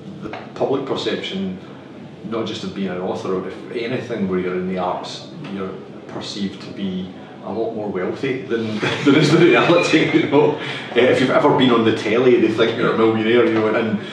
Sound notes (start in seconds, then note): 8.5 laughs